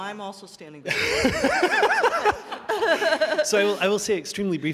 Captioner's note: laughter